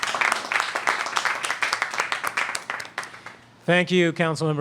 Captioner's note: applause